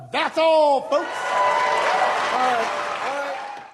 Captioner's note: cheering